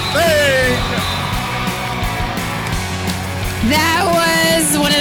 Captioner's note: whistle whistling; crowd cheering